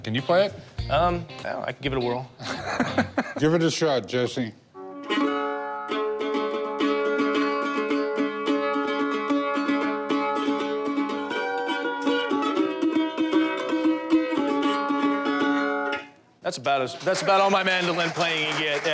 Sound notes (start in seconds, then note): 2.4 laughter; 5.3 mandolin playing